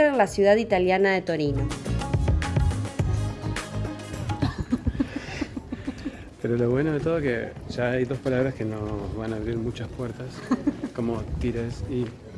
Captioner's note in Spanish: risas